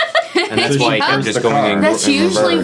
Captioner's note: ladies laughing